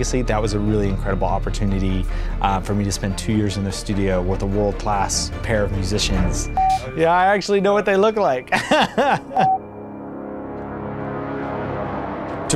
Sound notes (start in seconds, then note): 8.4 laughs; 10.2 brooding music